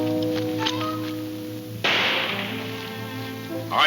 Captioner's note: gun firing